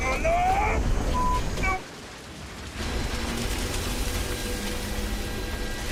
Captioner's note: beep